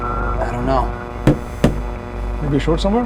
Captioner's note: tapping; tapping